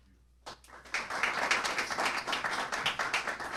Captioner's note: applause